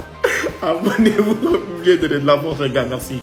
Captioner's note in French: rires